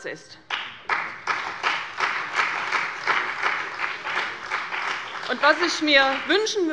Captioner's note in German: Beifall bei der CDU und dem BÜNDNIS 90/DIE GRÜNEN